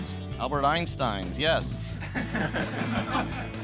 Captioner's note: laughter